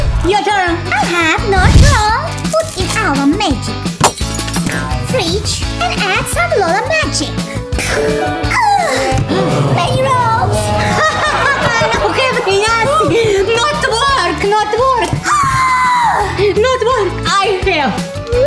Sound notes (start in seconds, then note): 15.3 screams